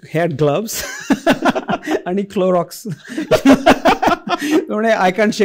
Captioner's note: laughter